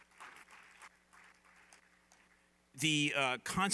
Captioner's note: applause